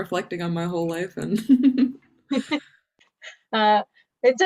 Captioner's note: laughs